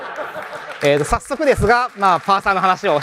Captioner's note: laughter; applause